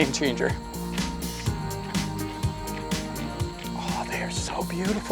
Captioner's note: footsteps heading off into the distance